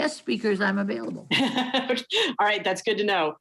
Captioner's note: laughs